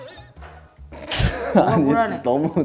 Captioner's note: sniff